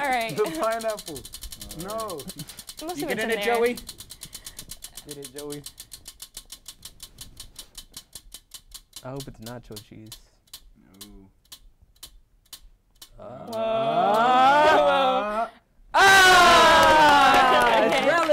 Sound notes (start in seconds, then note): 0.1 laughs; 6.5 wheel spins; 16.4 applause